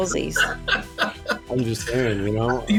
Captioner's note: laughing